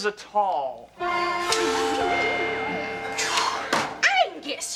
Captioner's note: school bell rings